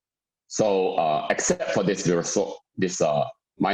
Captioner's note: murmur